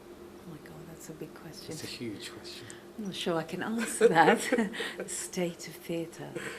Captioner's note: laughs